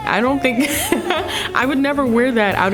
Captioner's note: laughing